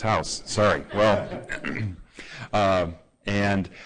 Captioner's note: laughter